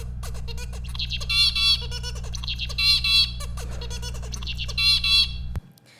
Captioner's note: bird singing